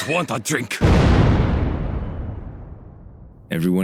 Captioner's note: explosion